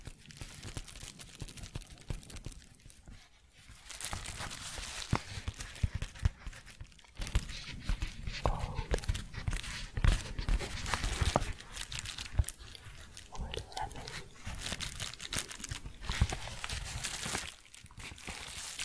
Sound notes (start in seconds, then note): 0.0 loud, then soft crinkling; 0.2 tapping and shuffling; 9.6 tapping, then crinkling; 14.4 crinkling